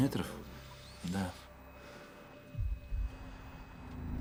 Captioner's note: inhales deeply